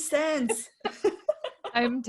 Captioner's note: laughing